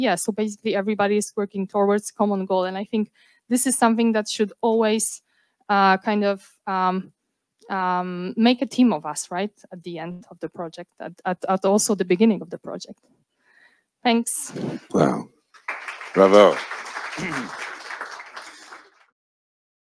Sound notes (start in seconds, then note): 15.1 male Voice